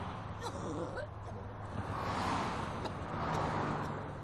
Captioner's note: coughing